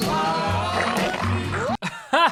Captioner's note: slurping sounds; laughing